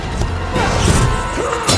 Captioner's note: blade clinks; weapon blasts; laser whooshes